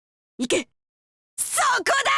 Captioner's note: whisper